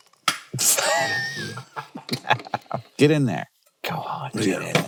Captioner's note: both laughing